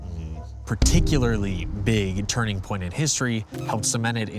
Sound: heavy impact

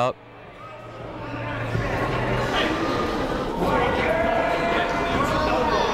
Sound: people talking in the crowd

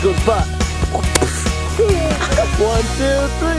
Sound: makes kicking noise

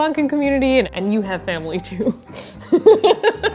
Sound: laughs

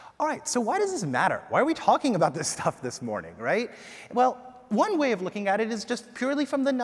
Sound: none

